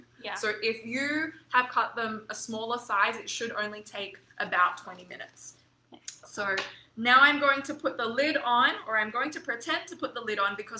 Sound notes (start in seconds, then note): none